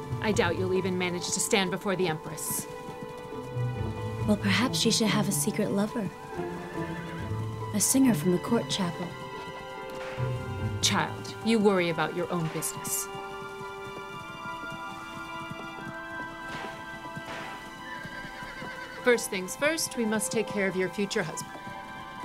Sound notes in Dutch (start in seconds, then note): 14.4 zachte muziek gaat verder; 18.0 paard hinnikt